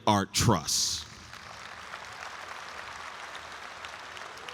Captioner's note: audience applauds